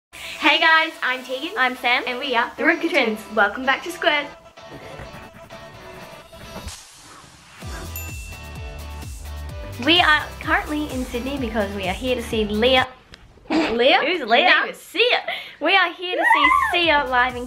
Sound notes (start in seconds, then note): 7.9 ding; 13.8 scoffs; 16.2 cheers